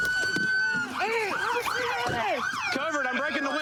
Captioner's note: shouting